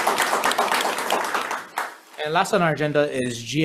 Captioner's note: audience applauds